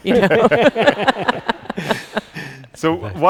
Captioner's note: people laughing